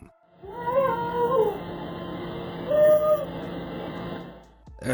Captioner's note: woman screaming